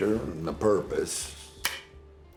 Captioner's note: gun clicks empty